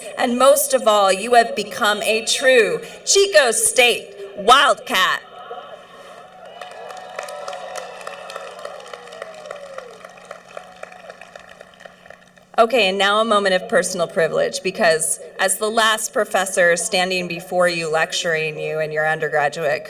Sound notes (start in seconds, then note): 5.4 cheering